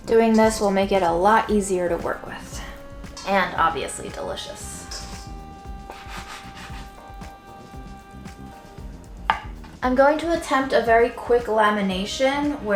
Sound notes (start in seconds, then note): 5.8 board scraping